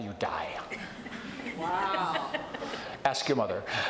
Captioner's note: audience chuckles